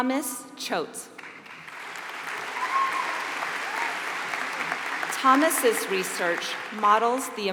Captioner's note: applause